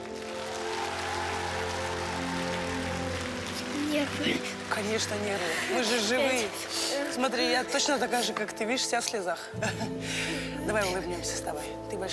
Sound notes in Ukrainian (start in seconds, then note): 0.0 оплески